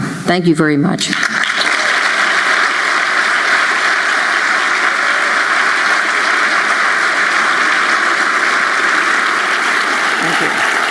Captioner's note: applause